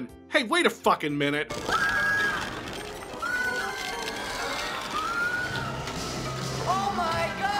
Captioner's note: female scream